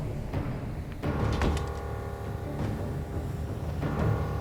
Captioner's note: door thuds; tense ominous music